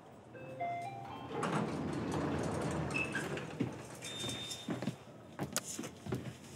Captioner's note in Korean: 엘리베이터 도착음